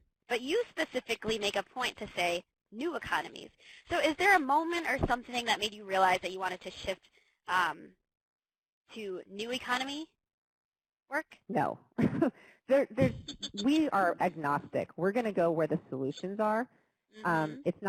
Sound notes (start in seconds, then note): 13.0 laughs